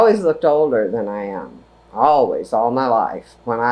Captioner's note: none